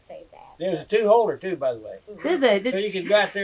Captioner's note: laughs